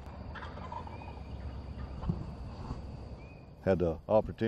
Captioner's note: turkey calling